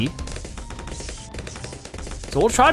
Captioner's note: weapons firing